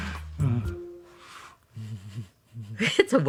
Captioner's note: chuckling